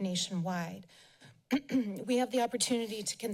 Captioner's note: clears throat